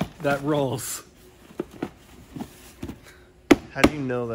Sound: box rattling; patting

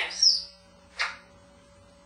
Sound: kiss sound

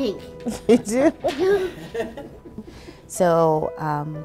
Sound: laughter

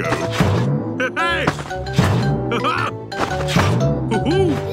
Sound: laughs

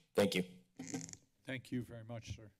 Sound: mic creaks

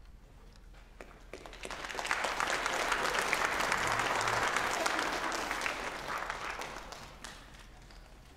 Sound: applause

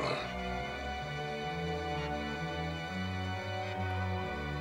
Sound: laughs

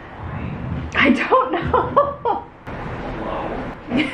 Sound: laughing

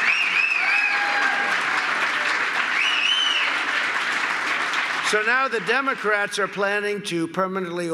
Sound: applause

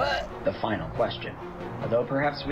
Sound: on phone

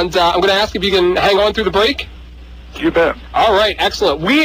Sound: laughs

